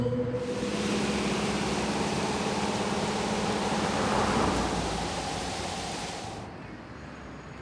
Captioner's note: car sounds